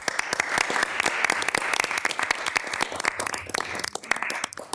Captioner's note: everyone applauds